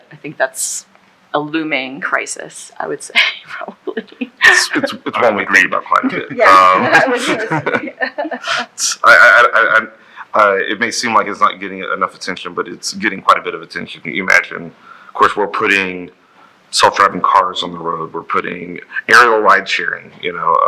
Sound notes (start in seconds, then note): 5.5 laughing